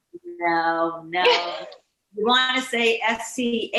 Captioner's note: laughing